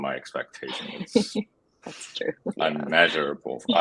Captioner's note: laughs